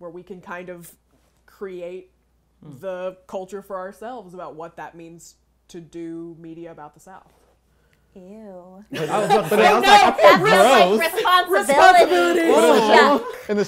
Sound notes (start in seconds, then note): 8.9 group laughing